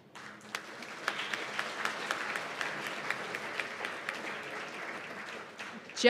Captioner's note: applause